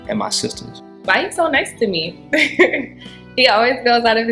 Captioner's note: laughing